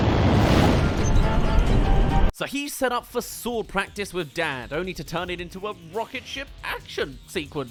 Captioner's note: rocket